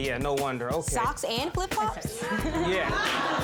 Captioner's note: audience laughing